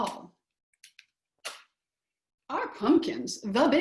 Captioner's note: silence